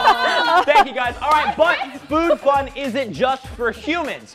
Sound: laughter

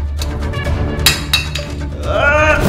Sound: metal clanks

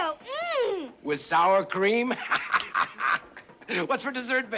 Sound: Mr. Beauregarde laughing

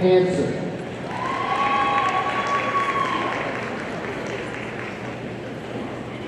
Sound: audience cheering and applauding

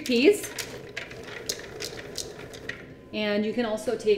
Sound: chickpeas rumbling

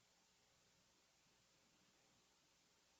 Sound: none

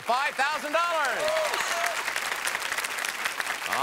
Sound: cheering

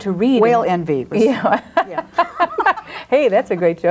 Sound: laughing drowns out speaker

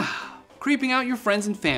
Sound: sighs

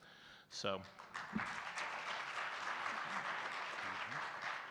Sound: audience clapping

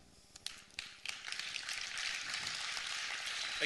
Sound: applause

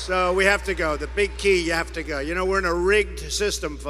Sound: cheers

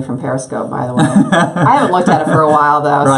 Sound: laughs

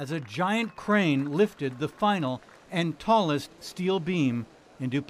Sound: applause

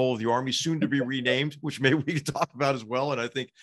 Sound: laugh

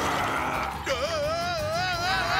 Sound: screaming

